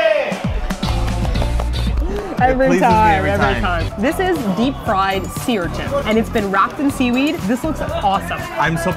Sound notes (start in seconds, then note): 0.5 applause